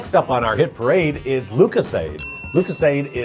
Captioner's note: bell dings